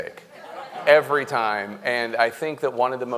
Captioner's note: audience laughing